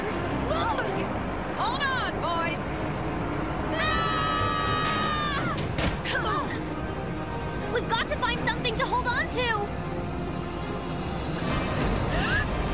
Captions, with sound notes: LOOK! - HOLD ON, BOYS! [all yelling] - WE'VE GOT TO FIND SOMETHING TO HOLD ON TO.